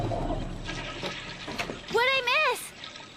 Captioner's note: toilet Flushing